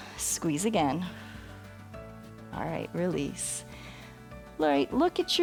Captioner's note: exhales